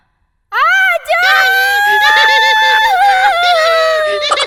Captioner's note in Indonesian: Menangis